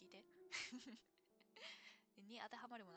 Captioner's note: laughs